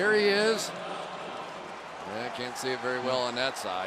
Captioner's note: pa announcement